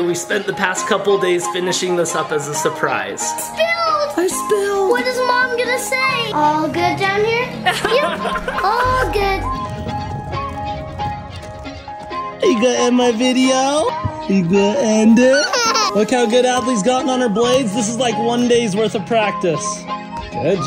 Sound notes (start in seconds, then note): 7.6 mom and dad laughing; 14.3 laughs